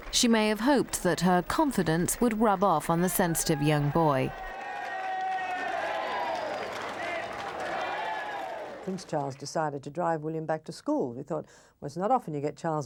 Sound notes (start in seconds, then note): 4.7 crowd cheering